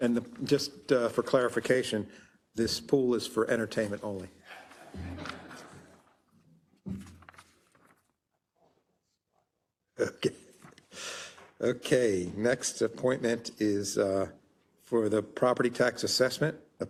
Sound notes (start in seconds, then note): 4.5 laugh